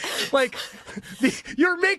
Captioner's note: both laughing